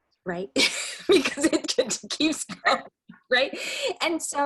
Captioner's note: laughs